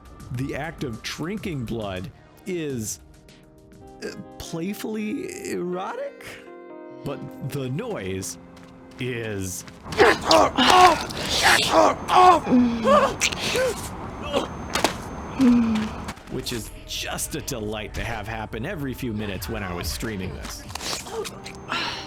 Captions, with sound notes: The act of drinking blood is… playfully erotic? But the noise is. (Loud sucking noises, screaming, and moans) Which was just a delight to have happen every few minutes on stream.